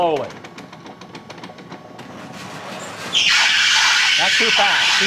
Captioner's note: gears start up - Belt screeches!